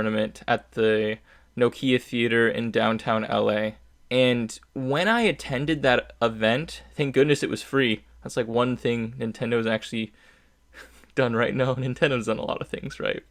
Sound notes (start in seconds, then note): 10.8 small chuckle